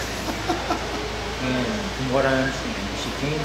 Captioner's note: laughing